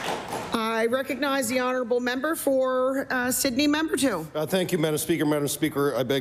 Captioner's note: applause